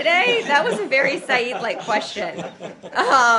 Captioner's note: laughter